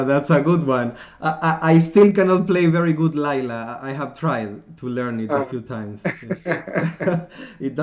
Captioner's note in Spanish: Risas